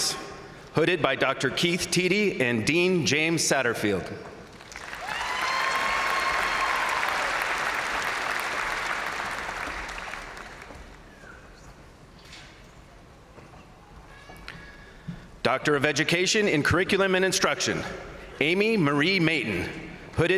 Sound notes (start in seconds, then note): 4.5 crowd applauding; 4.6 crowd cheering